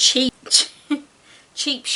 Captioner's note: giggles